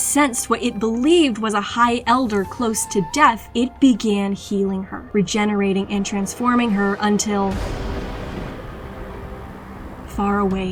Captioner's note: lightning strikes